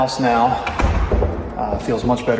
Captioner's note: door thuds